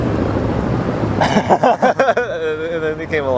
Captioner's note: laughs